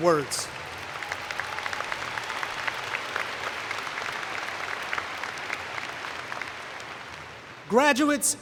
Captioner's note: cheering and Applause